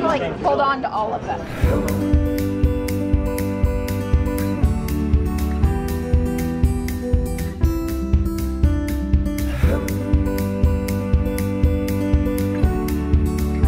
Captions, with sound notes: You just wanna like, hold on to all of them. (cheerful music) (humming)